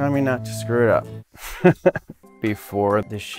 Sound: laughing

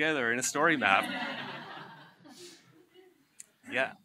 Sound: laughter

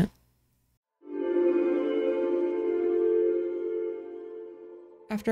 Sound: chapter transition sound; ominous & ambient

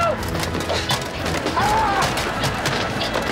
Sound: screaming

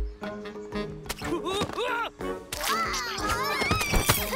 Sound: intriguing music; exclamation

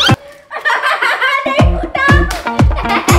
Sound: laughs

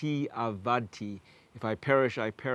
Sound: speaking Hebrew

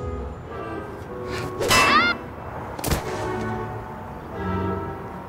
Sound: clanging and screams

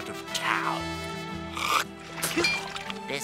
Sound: spits

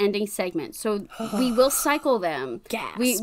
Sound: fake gasps

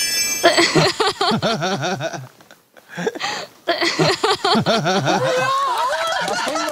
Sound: just laughing

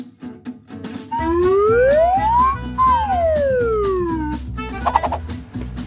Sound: assistant whizzing

